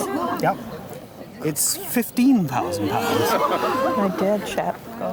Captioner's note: crowd gasps